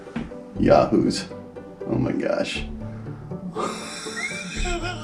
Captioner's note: laughs